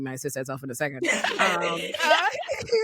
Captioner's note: all laughing